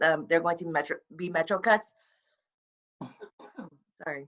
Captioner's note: coughs